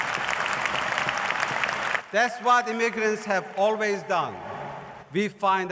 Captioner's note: cheers and applause